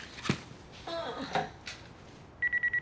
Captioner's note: groans